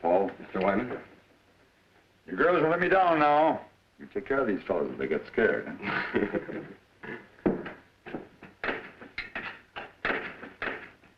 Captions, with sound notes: - Paul. - Mr. Wyman. - You girls don't let me down now. You take care of these fellas if they get scared, huh? (all laughing)